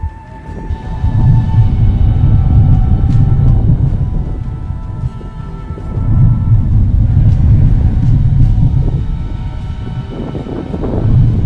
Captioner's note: distant thundering noise